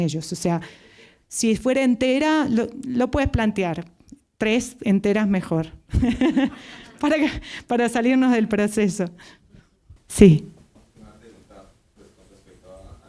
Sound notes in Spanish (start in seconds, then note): 5.9 risos